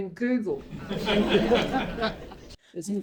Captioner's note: laughter